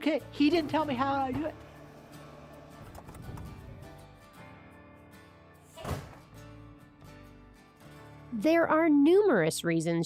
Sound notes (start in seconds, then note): 2.6 door bangs; 2.6 gentle guitar music